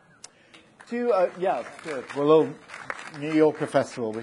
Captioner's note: audience applauding